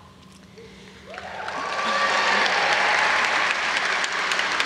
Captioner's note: audience applauds